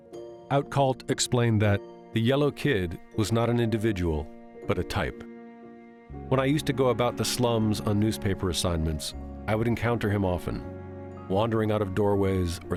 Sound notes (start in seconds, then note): none